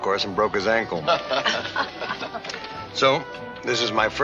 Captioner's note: David and Liz laugh